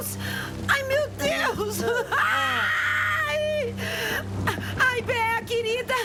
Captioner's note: screams